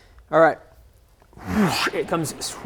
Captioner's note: whoosh